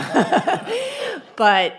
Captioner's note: laughs